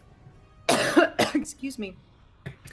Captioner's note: coughs